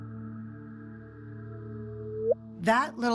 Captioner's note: chirp